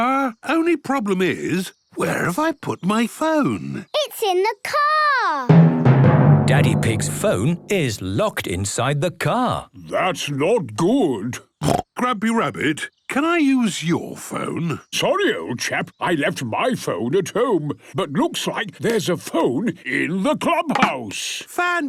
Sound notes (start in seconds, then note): 11.6 snorts